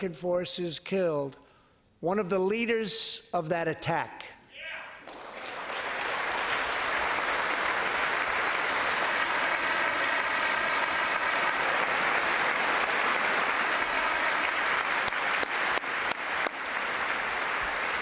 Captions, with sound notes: 18 YEARS AGO, VIOLENT TERRORISTS ATTACKED THE USS COLE, AND LASTING A VERY GOOD -- LAST MONTH AMERICAN FORCES KILLED ONE OF THE LEADERS OF THAT ATTACK. [APPLAUSE]